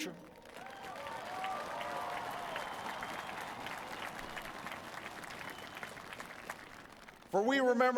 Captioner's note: applause